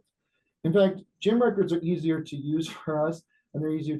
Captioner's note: chuckles